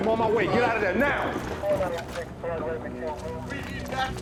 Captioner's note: voice over the radio